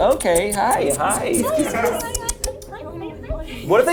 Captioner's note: make kissing noises